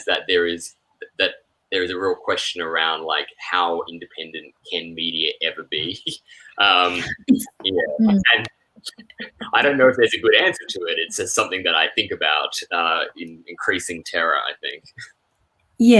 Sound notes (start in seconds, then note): 8.9 chuckles